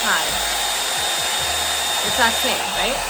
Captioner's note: dryer whirring